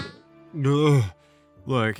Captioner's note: gag